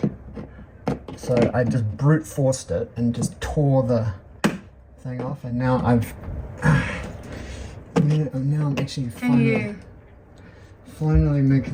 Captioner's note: exertion noise